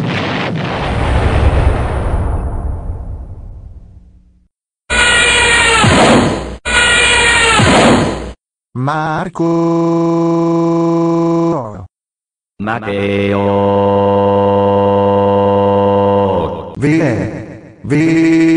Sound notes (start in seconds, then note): 0.0 explosion!; 4.9 zoom!; 5.6 crash!; 6.8 zoom!; 7.5 crash!